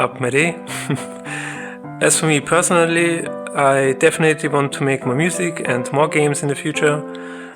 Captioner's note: chuckles